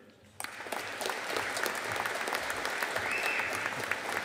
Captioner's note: audience applauding